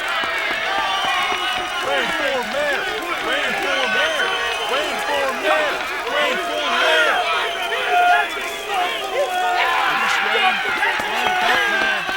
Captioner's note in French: Acclamations bruyantes de la foule, alors que les chants commencent